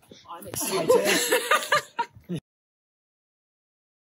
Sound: woman laughs

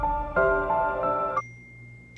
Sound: sad music; text tone

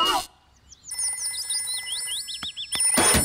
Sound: phone rings

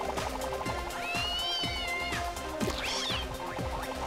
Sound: startled meowing

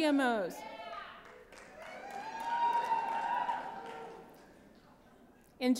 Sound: cheering

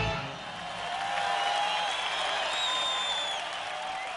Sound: crowd cheers

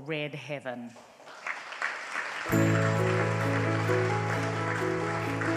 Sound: audience applauds

